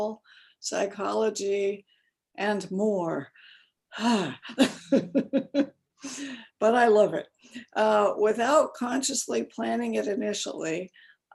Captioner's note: sigh; laughs